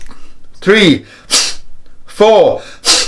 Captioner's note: deep breaths